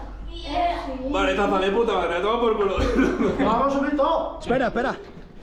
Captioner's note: laughs